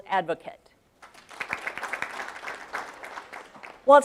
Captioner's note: audience claps